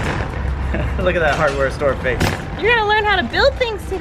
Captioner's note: laughs